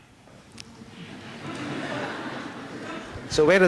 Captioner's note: laughter